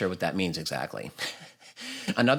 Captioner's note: laughs